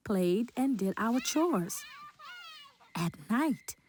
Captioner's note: children yelling and playing